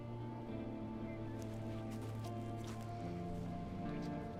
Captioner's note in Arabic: خطوات بطيئة